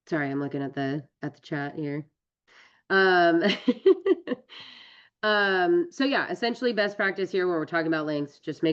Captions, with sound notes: Sorry, I'm looking at the chat here. [LAUGHS] So yeah, essentially, best practice here, when we're talking about links, just